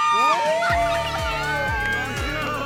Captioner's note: shrieking